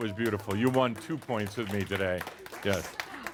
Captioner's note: some applause